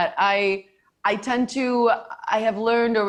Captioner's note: none